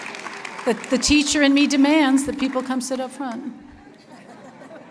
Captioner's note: laughter